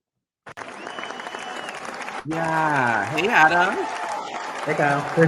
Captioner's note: crowd cheers